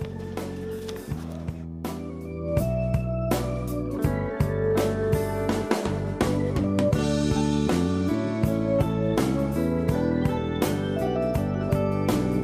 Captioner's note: sounding gavel